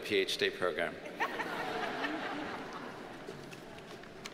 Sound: audience laughs

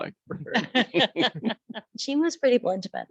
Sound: laughing

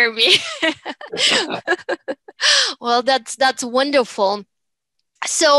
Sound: laughter

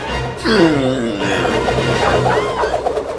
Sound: laughs

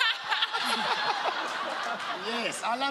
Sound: laughing

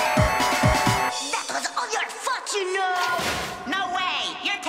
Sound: crash

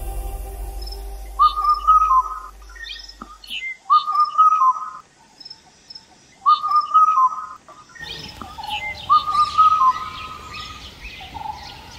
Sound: cuckoo Call

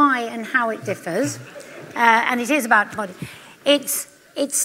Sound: laughter

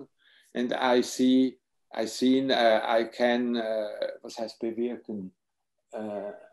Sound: speaks foreign language

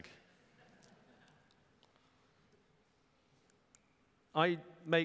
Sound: laughter

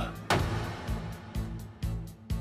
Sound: prosecutor speaking in Japanese; gavel banging; tense pensive music continues

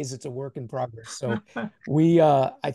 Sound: laugh

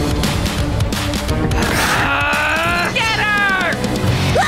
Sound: growling

